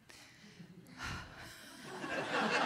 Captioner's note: huffs; audience laughs